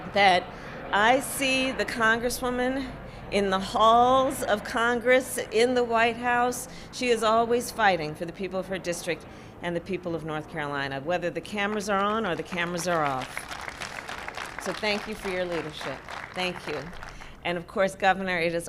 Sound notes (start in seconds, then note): 12.2 applause